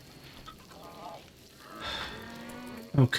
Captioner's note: sighing